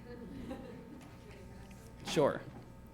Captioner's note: laughter